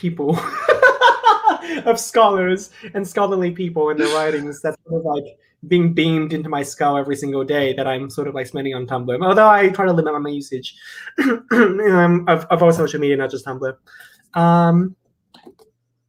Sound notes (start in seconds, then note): 0.4 both laugh